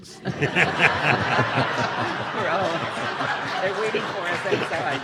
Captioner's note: audience laughing